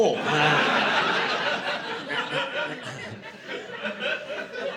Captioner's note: laughter